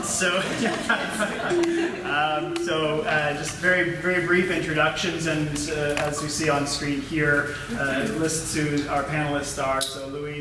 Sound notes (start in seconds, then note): 0.3 laughter